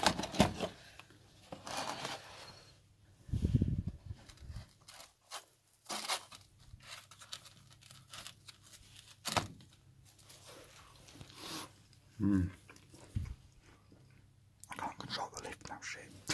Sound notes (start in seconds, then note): 12.1 makes nasty eating noises